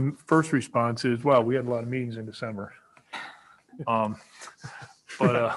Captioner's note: laughs